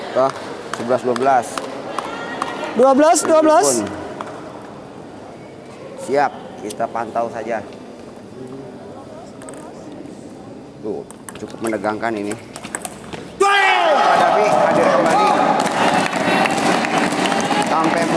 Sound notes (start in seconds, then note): 15.4 applause